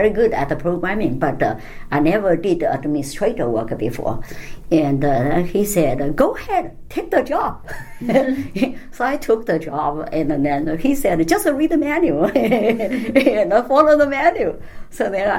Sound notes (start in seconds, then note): 7.9 all laugh; 12.3 laugh